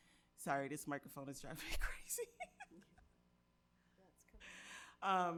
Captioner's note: laughs